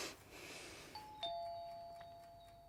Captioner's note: breathes deeply; doorbell rings